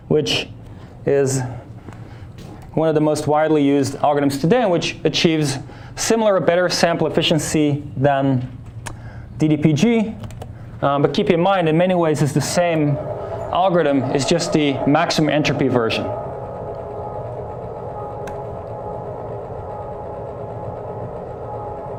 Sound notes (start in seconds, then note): 16.3 mechanical whirring